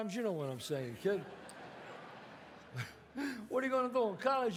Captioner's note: audience laughs